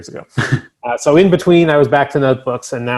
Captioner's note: chuckles